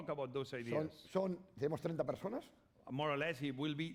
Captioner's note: speaking spanish